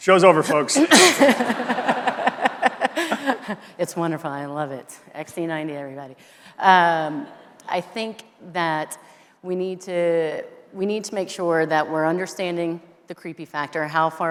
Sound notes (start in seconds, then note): 0.7 everyone laughing